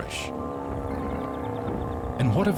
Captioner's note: grumbling